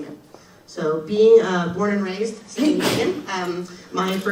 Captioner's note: audience member sneezes